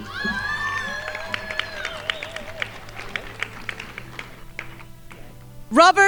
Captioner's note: crowd applauding